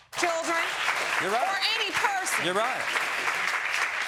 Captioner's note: audience applauding